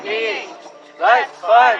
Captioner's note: chanting